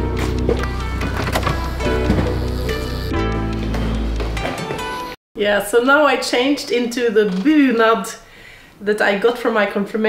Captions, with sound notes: (door opens) Yeah, so now I changed into the bunad that I got for my confirmation